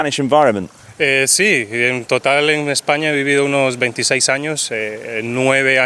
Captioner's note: speaking in foreign language